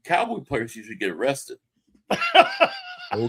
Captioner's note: laughing